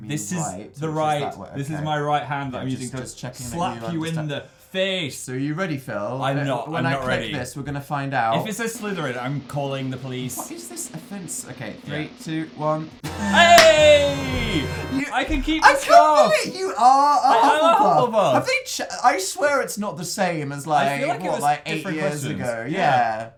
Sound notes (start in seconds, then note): 8.5 drum roll; 13.1 Legend of Zelda treasure chest sound